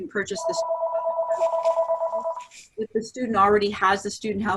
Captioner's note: phone rings